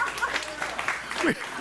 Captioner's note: audience applauding